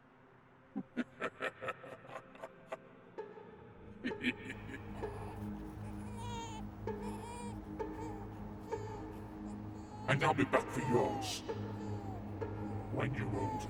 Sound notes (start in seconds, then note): 0.9 leprechaun laughing; 4.9 baby crying